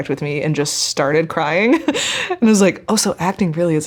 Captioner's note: chuckling